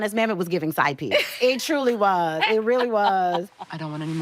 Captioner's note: laughing